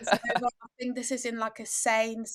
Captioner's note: laughing